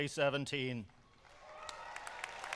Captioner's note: cheers and applause